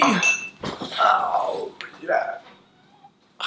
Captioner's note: grunts; Thomas meows